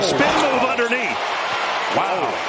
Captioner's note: cheers and applause